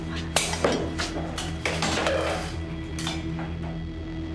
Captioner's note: loud noises - clatter